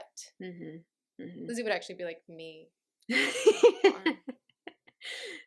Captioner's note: laughter